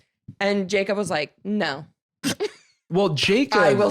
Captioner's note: laughs